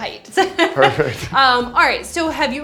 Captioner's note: laughs